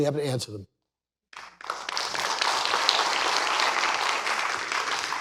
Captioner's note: applause